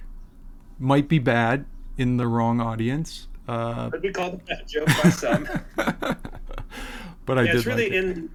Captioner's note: laughs